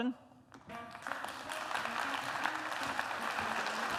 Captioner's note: applause